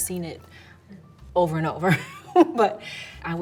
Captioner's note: laughs